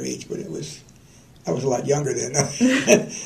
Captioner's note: laughter